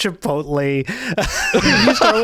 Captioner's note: laughing